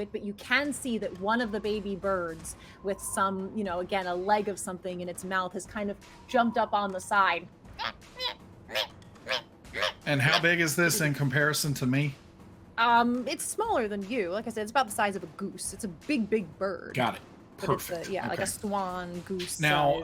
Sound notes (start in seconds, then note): 7.6 bird cheeping